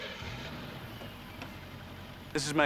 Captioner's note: car engine starts